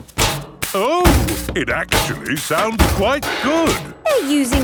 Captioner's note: rhythmic clanging